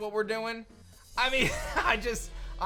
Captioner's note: chuckles